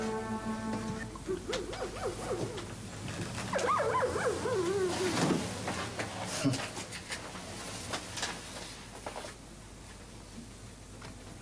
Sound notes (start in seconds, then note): 3.5 dog barking